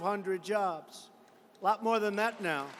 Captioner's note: applause